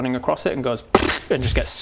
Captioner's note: pop!